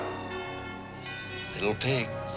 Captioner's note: gasping